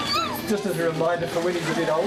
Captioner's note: baby giggling; audience laughing